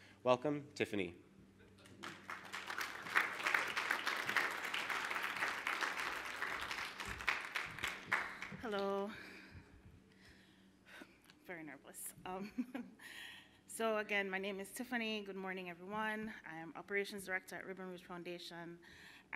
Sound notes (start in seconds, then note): 1.8 applause